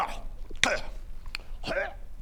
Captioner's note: hrrgh